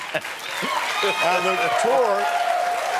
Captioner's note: laughs; cheering